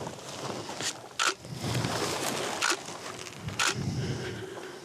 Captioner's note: camera clicking